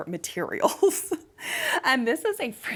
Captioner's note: chuckling